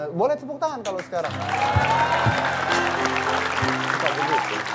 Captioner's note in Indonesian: Tepukan penonton